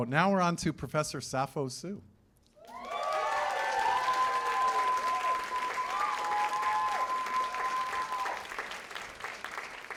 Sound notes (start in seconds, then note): 2.6 cheers and applause